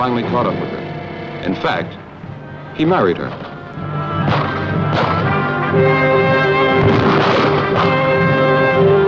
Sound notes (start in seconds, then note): 4.1 trumpet music playing; 6.8 explosion